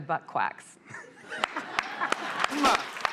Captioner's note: laughter